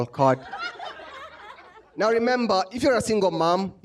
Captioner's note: laughter